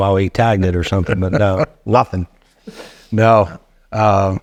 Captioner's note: laughing